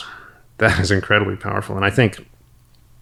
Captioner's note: chuckles